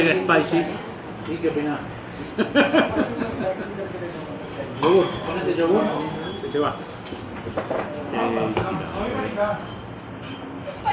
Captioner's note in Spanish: risas